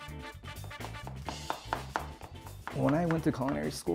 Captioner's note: thuds